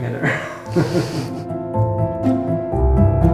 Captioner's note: both laugh